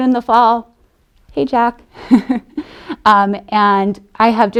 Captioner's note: laughs